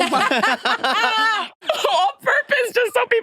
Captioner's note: participants laughing